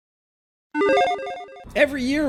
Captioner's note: electronic chiming